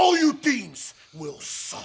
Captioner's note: speaking foreign language